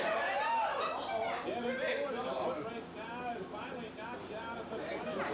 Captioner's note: cheering and applause